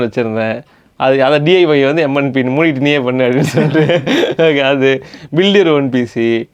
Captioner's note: laughs